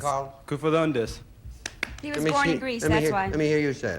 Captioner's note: in Greek accent